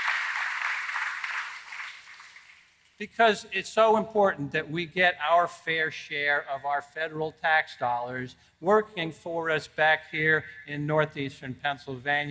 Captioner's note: applause